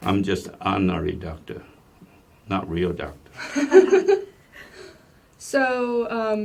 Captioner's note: laugh